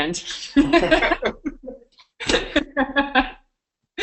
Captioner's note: laughing